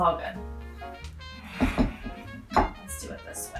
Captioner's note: glass clanks